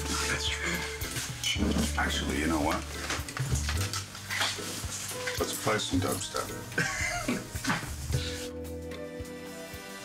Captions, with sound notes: It's true. Actually, you know what? Let's play some dubstep. (CHUCKLES)